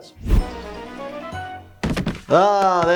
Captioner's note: thud